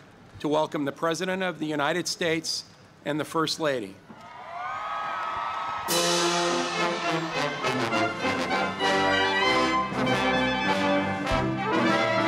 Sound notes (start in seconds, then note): 4.2 cheering